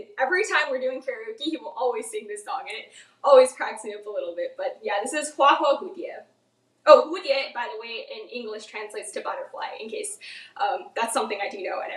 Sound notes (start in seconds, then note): 5.5 speaks in foreign language